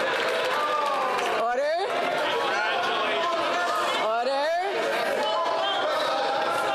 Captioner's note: cheering and Applause